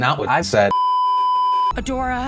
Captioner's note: beeeeeeeeeeeep